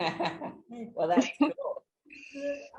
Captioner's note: laughs